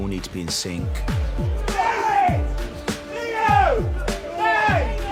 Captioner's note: shouting commands